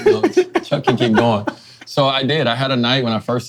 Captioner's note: laughing